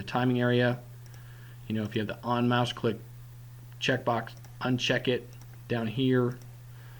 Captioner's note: click